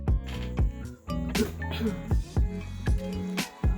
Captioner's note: clears throat